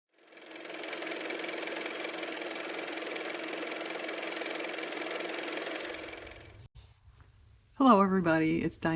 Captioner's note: car motor